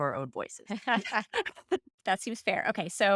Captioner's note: laughter